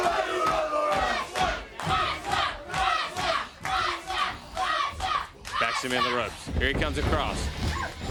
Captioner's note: crowd cheering